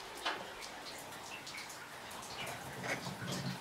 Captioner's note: water splashing